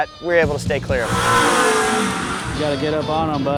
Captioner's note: engine revving